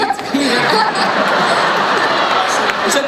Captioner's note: laughing